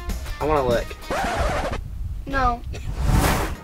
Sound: record scratching; air whooshing

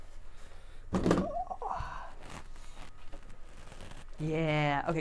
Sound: grunting

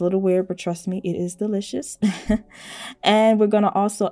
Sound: chuckles

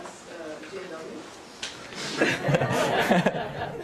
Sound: audience laughter

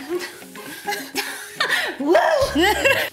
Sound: laughs

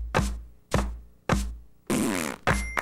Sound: thrrrrp; clap clap clap clap

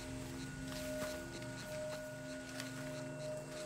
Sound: none

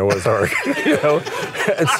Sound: everyone laughs

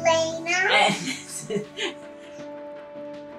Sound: laughs

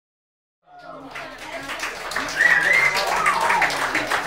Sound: audience applauding and cheering; fan whistling

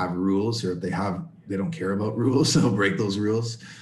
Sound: laughter

